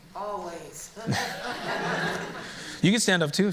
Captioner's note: laughter